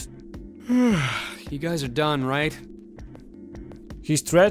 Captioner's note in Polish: Ziew